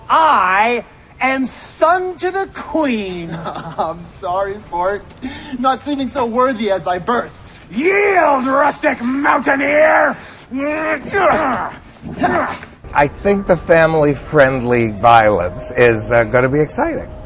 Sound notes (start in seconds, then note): 10.5 both grunting